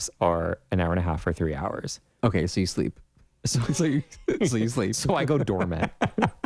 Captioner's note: laugh